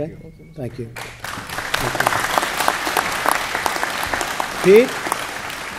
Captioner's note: applause